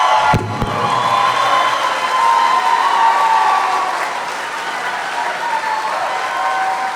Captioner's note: applause